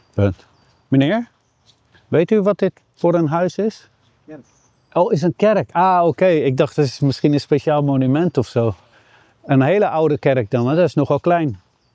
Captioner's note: speaking in foreign language